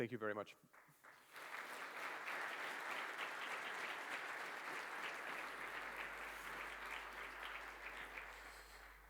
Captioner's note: applause